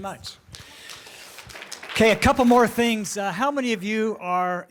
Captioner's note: applause